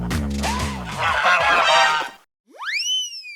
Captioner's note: honk honk quack quack